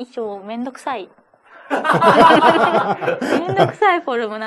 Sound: laughs

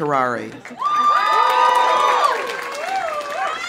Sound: audience applauding; audience cheering

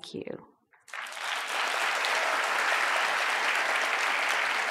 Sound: audience applauds

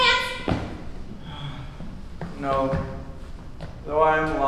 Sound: hopeless sigh

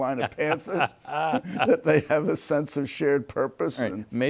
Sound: laughs

